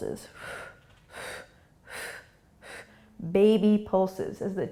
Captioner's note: exhaling breaths